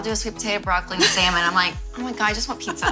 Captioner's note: laughs